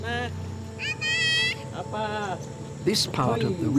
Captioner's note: indistinct chatter